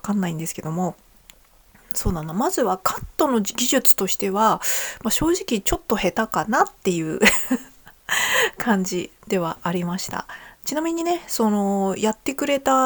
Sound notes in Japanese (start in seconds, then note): 7.2 笑い